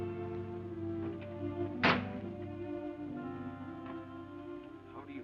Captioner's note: door thuds